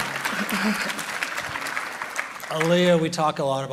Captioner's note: audience clapping